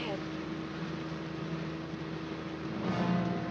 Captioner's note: engine roaring; dramatic music